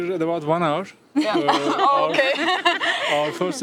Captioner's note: laughter